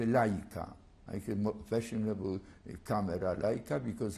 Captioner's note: non-english; non-english